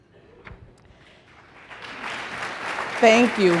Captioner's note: applause